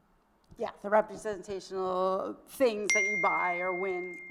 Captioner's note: cell phone dings